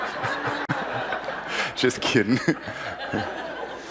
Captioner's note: he and the crowd laugh